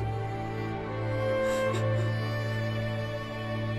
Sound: sobbing

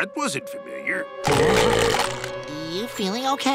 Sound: burping

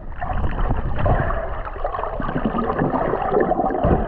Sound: water bubbling

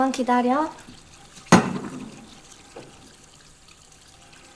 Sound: rattling,,☆

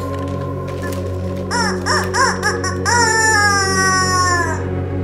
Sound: honking

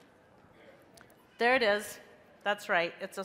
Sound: crowd

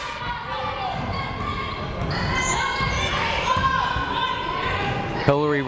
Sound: people shouting in the crowd

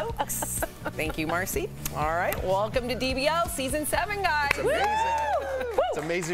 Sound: laughter

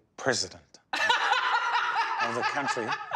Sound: laughing loudly

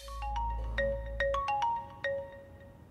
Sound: phone ringing

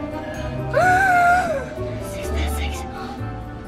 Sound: gasps

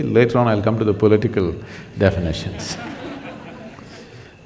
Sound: laughter

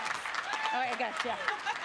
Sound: applause

